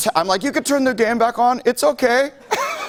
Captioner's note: laughter